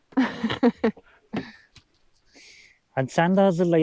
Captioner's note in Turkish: kahkaha